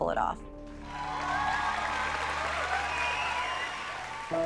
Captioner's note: cheering